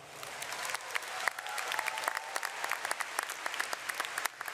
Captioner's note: audience applauds